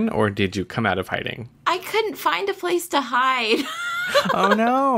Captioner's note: laughs